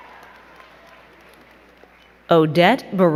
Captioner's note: crowd cheering and clapping